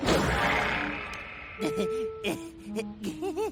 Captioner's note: nervous laughter